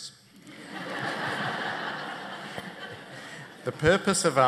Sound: laughter

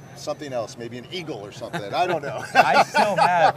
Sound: laughs

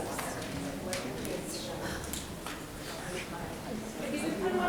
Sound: group chattering

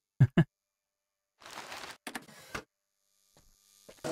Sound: laughs

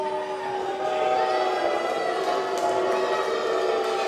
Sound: crowd booing

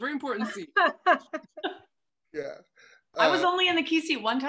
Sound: laughing

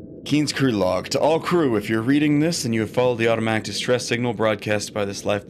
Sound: reading out loud

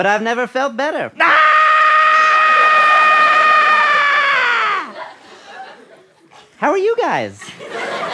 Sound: screams

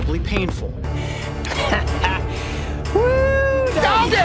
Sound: pained laughter

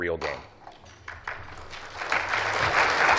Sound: applause

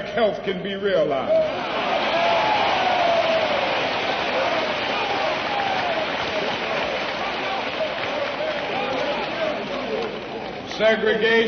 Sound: applause

